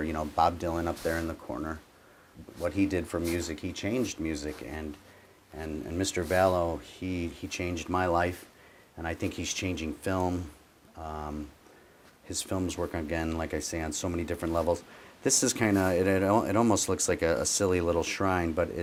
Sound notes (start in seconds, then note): none